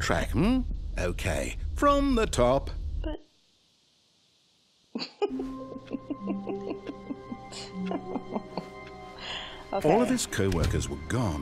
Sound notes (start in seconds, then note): 4.9 laughter